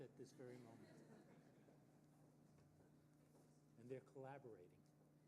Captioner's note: audience laughing